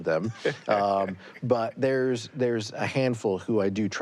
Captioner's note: laughs